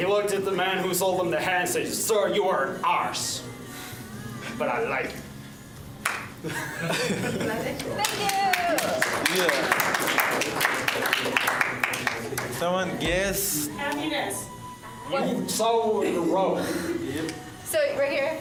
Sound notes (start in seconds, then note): 6.4 laughs; 10.0 applause